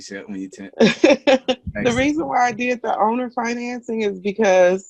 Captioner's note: laughs